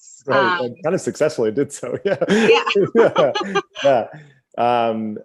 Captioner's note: both laugh